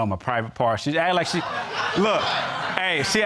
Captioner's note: crowd laughing